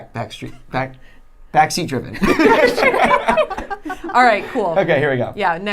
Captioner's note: laughing